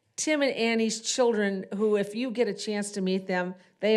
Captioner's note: none